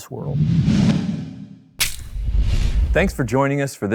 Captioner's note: air whooshing